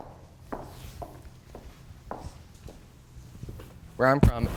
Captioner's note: feet stomping